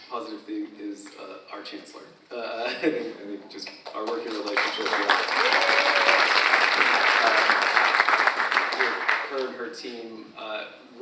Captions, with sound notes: positive thing is our chancellor, I think just our working relationship with her (audience applauds) and her and her team